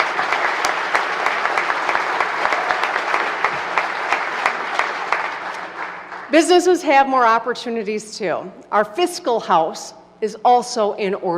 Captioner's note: applause